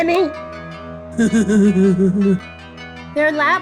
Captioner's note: laughs